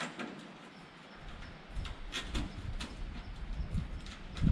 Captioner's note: metal clanking